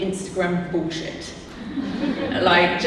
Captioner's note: audience laughing